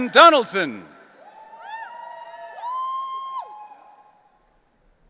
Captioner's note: audience cheering